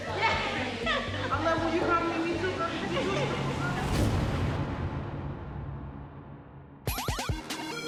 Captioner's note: laughter